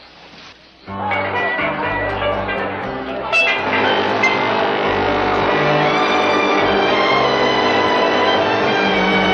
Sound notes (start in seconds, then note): 0.0 light music; 3.7 ship horn honking